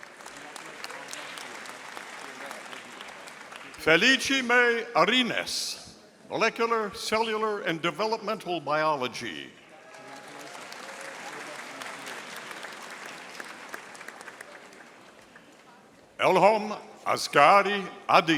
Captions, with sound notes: (audience applauding) Feliceme Arinas, Molecular, Cellular, and Developmental Biology. (audience applauding) Elhom Askari Adid,